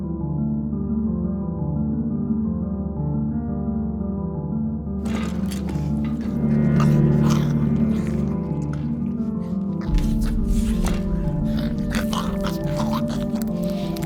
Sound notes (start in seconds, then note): 7.1 mouth squishing; 7.1 woman grumbling